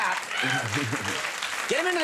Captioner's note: audience clapping